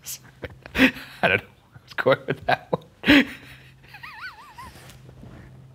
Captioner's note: laughing